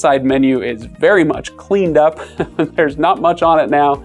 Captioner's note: laughs